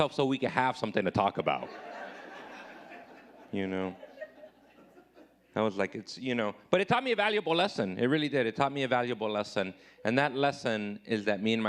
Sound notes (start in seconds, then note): 1.6 audience laughing